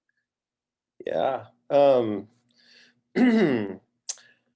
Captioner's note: clearing throat